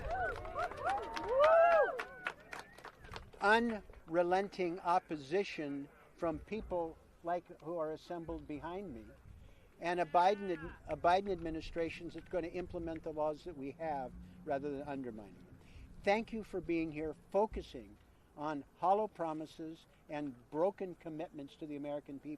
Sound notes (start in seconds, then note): 4.1 applause